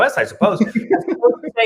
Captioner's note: laughs